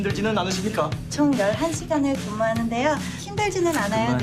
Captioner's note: seoul accent